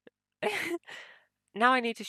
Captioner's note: laughs